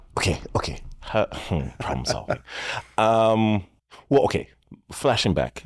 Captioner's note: chuckling